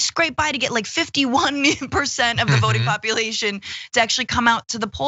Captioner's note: laugh